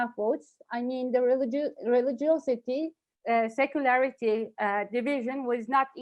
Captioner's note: stutters